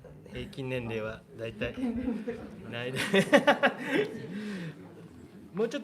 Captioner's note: laughter